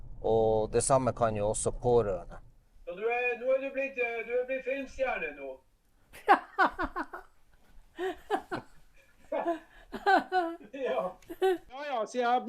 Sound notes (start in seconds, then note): 6.1 the sound of laughter